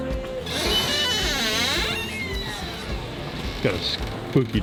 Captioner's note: door creaks